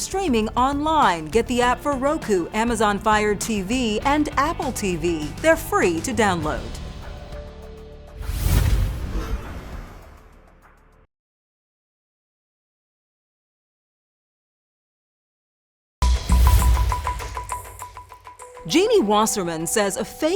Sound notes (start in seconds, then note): 8.2 air whooshes; 16.1 intriguing music